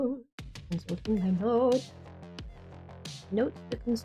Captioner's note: deeper tone